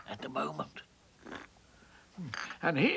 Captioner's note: slurps tea